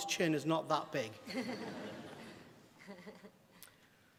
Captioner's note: laughter